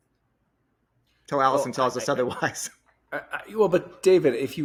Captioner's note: laughs